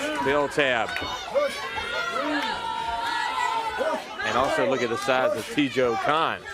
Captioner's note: crowd chatter